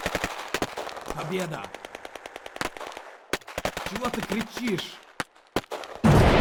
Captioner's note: speaking Russian